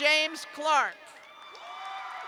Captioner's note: cheers and applause